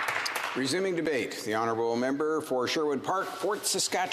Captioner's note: speaking indigenous language